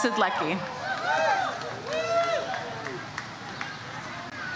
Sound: audience cheers

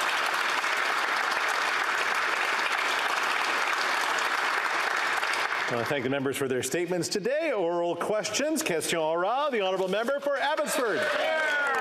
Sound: applause

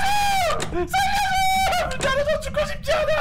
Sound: crying

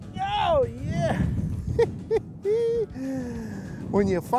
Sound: laughs

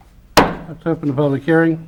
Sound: gavel hitting on sound block

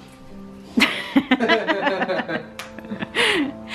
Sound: laughing

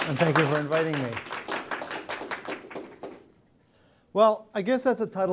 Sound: applause

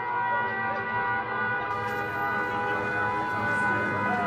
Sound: air raid siren screaming

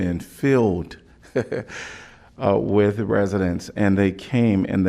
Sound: laughter

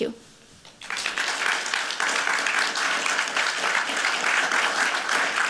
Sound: applause

